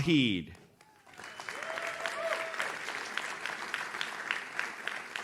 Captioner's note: audience cheers